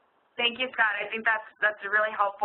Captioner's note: voiceover